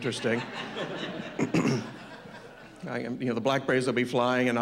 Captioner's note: background laughter